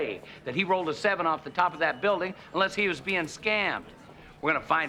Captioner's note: none